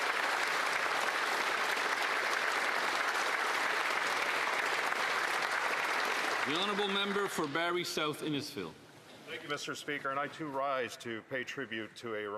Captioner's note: applause